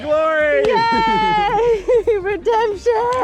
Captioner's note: celebrating